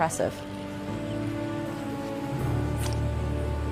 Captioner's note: current rushing, birds calling; lure splashes, thuds into water